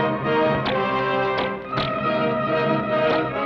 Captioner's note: bullet ricochets; gun fires; bows twang